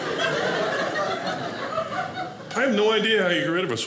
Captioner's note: audience laughing